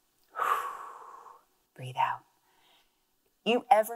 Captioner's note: exhales